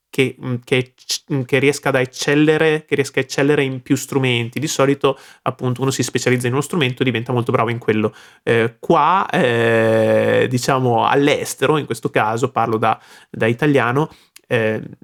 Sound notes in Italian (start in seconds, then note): 12.3 parlo da da italiano